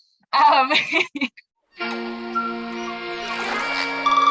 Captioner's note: laughter